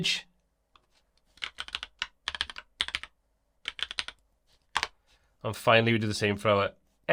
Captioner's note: typing